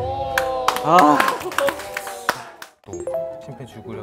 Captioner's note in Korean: 박수